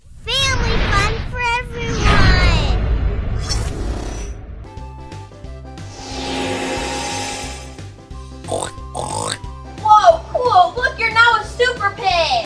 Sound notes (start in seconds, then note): 5.8 magic whooshing; 8.4 pig oinking